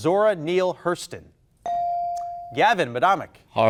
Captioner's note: bell dinging